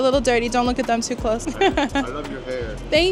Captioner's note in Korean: 웃음